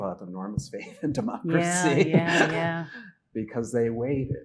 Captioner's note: laughing